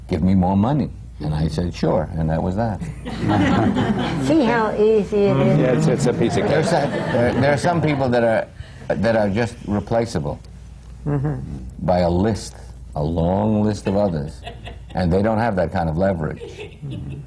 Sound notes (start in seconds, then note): 2.8 laughter; 6.0 laughter